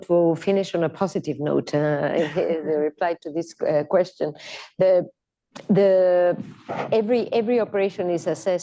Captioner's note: laughter